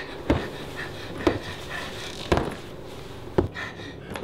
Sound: footsteps Approaching

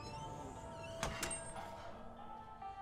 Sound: door closes

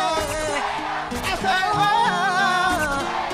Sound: crowd cheers

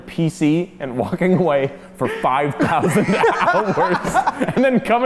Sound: laughing

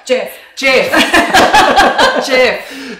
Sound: laughing

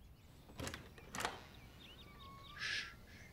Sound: knocking on door

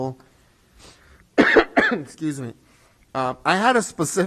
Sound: coughs

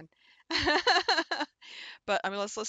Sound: laughs

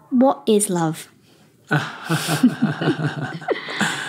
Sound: laughs

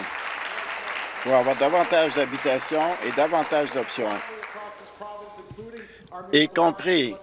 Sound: applause

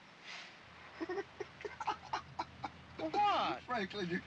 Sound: laughs

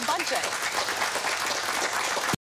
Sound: applause

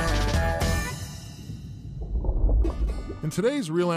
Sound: splash

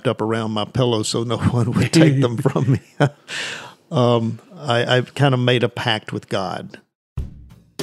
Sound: chuckles

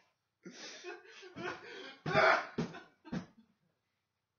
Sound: heavy sobbing

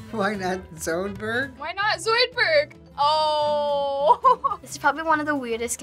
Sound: laughing

